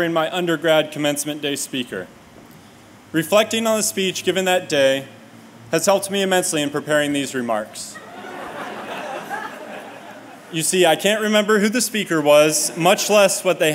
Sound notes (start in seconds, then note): 7.9 laughter